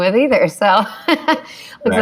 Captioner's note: laughs